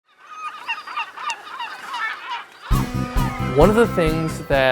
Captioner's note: bird cries/music